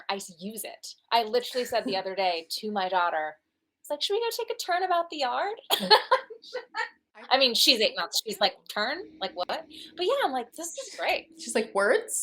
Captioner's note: laughter